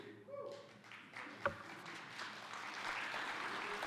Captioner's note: audience clapping